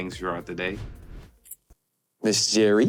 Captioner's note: air whooshing